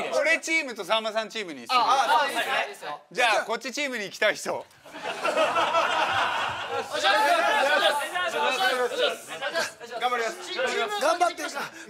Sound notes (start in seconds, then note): 5.3 running sounds